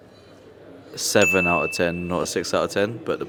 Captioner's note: bell dinging